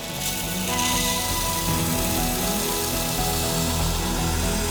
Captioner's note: machine whirring